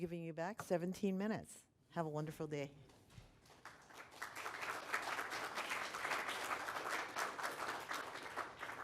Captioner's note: applause